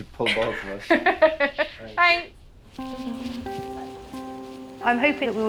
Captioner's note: laughs